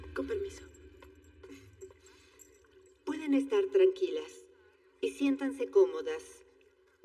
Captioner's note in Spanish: Ríe